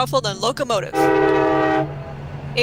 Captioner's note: train whistle blows, locomotive rumbles